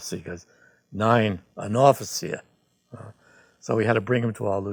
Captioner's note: speaking German